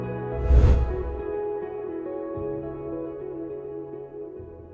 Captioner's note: swooshing sound effect